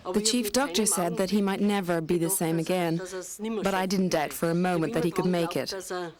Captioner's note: speaking in foreign language